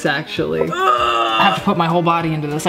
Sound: grunting

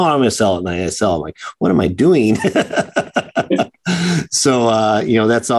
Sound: chuckles

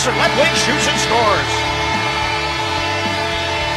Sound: goal horn

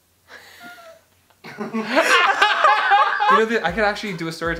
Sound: laughs

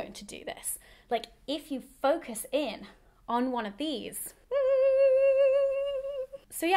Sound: hums excitedly

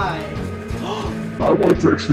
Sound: gasps softly

